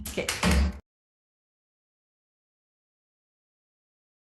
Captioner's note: gavel bangs